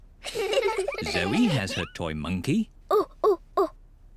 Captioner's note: hoots